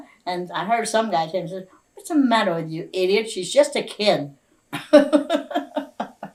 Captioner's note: laughs